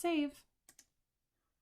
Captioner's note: click